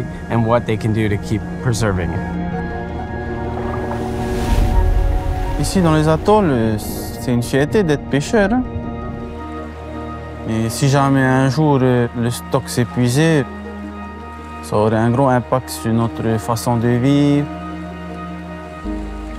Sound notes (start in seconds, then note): 3.5 warm music; 6.0 speaking foreign language